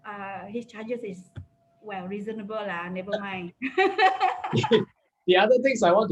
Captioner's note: laughs